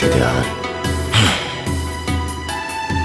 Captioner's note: sighs